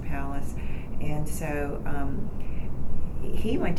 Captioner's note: none